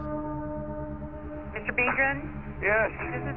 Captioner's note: on phone